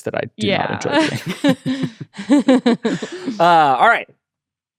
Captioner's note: everyone laughing